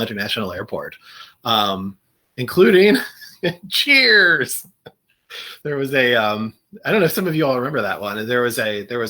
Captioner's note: laughter